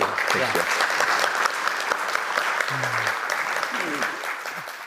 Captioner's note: attendees applauding